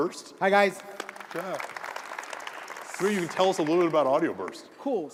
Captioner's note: applause